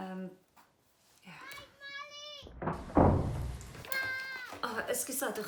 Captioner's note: children fighting in another room